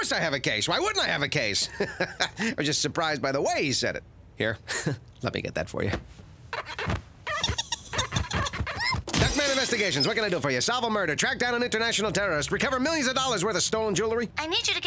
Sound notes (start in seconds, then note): 1.6 laughing; 7.2 Fluffy giggles, then screams